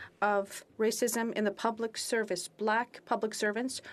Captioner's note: speaking French